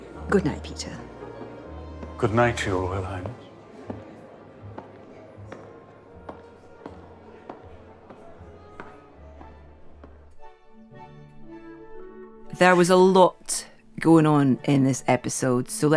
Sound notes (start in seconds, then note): 5.4 footsteps tapping; 7.9 gentle orchestra music